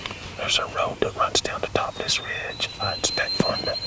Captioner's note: whispering